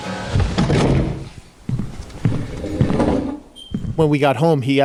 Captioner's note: car engine roaring